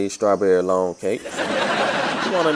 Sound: laughter

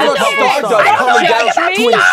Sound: panel shouting over each other

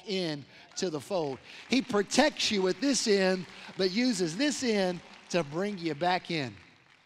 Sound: applause

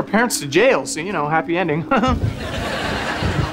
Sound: laughing

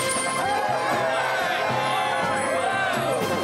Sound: cheering

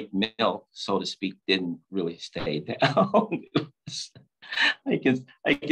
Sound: laughs

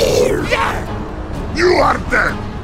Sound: zombie growl; zombie yell

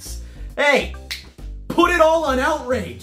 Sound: snap

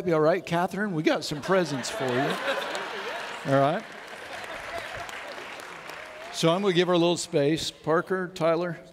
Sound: audience laughs

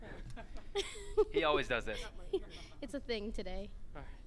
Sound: laughs

